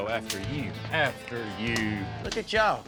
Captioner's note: slapping